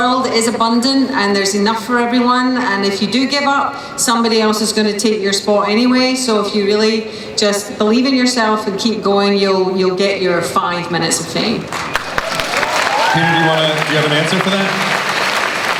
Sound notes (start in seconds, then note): 11.8 cheering